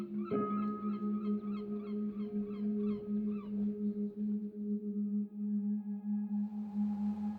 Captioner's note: peaceful music; seabirds calling